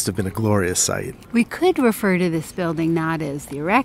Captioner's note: voiceover